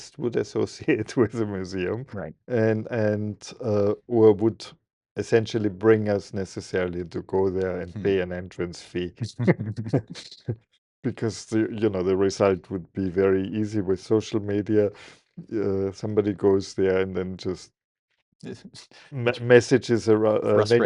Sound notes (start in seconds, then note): 9.3 both laughing